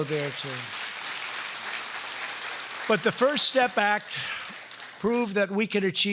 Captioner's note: applause